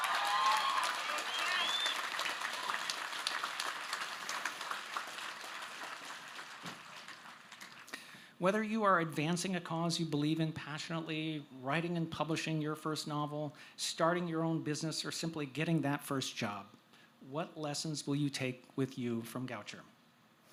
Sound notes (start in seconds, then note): 7.8 applause